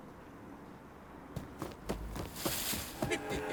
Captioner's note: birds chirping; boots stomping; leaves rustling; leprechaun laughing